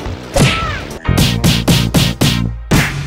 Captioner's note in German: Mehrfache Schlaggeräusche; Schlaggeräusch